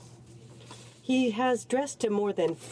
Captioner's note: speaking French